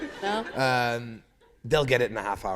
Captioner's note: laughter